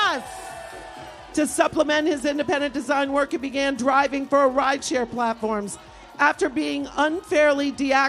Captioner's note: applause